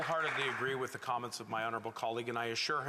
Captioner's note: applause